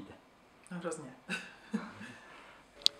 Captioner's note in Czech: smích